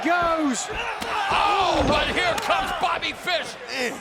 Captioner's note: boot thuds